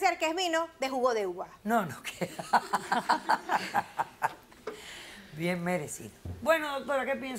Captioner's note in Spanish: Risas